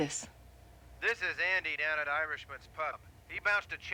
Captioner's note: on phone